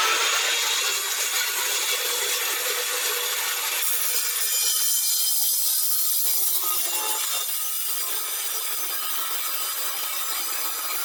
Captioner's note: tile Saw Cutting Noise